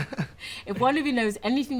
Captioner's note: laughter